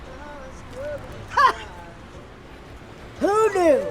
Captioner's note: officer laughs